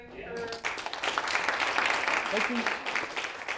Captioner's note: students applaud